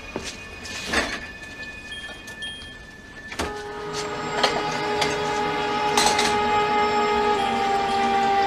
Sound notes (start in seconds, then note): 1.8 answering machine beeps; 4.7 suspenseful music continues